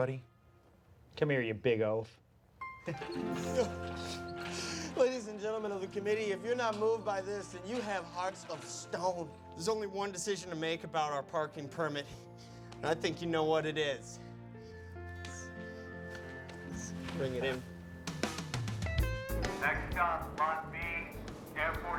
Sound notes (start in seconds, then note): 2.8 sobbing